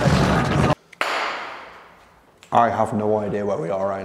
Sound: claps

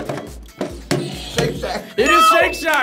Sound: bell dings

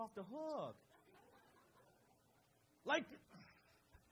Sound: crowd laughs

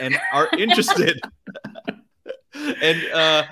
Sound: laugh

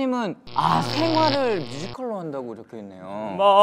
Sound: electricity

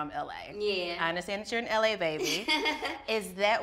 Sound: laughs

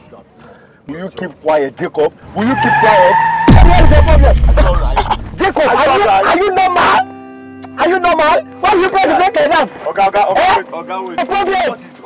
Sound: arguement

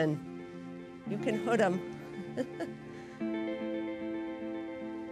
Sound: laughs

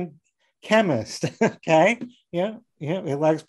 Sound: laughing

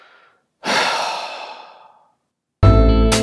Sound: sigh

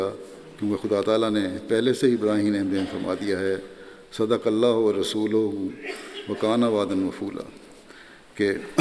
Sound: Arabic

